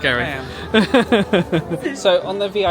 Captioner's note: laughing